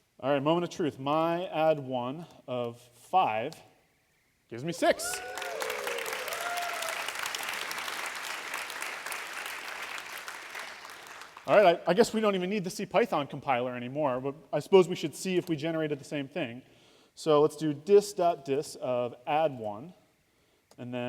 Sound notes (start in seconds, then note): 4.9 applause